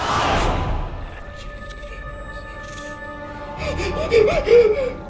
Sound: whines; whispered voices; breathing heavily

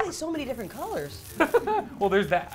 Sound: laughs

